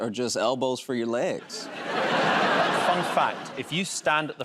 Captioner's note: laughter